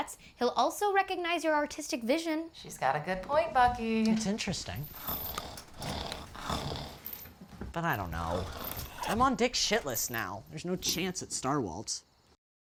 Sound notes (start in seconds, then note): 5.4 vish growling